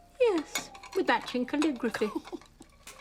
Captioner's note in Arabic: روبين تضحك